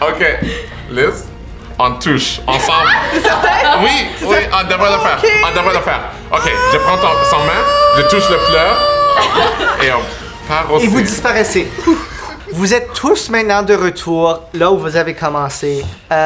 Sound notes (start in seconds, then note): 0.0 laughter; 6.3 Lys screams